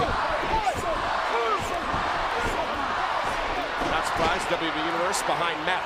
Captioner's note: crowd cheering